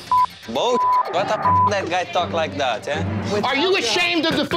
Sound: beeps

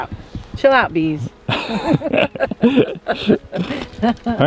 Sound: giggles

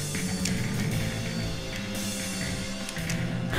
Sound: laughs

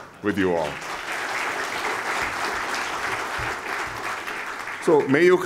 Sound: applause

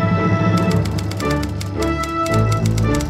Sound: frantic typing

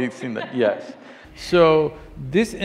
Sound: laughs

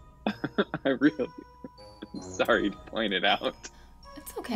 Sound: giggles

